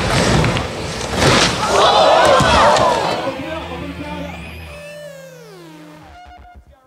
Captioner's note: loud crack; crowd gasps